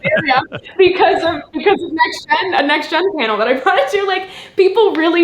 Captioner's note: laughs